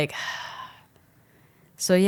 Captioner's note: sighs